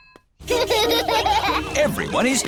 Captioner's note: children laughing